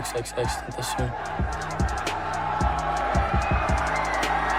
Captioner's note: fans cheering